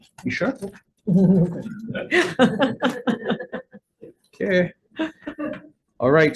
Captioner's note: laughing